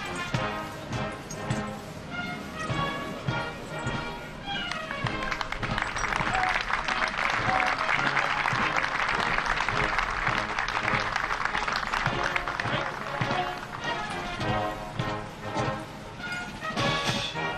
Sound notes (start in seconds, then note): 5.6 applause; 14.7 patriotic music